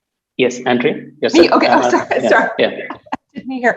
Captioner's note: laugh